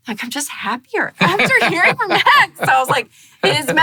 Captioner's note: laughing